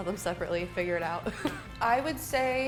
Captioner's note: laughs